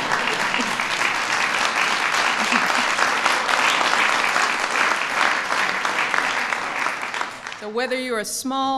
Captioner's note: applause